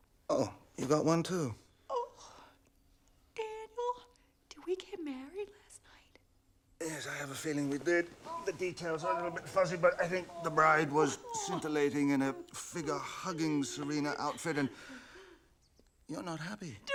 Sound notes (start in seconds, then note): 1.7 whimpers; 3.2 whispering